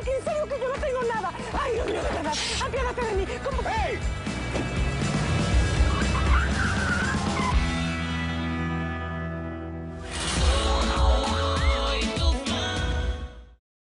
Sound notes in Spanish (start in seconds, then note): 6.6 Chirrido de llantas